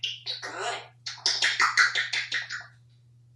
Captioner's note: lip smacking sounds